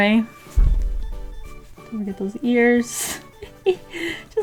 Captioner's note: giggles